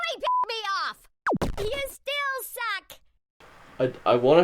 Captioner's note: laser sound